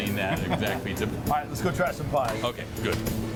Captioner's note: laughs